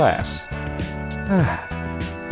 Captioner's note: sigh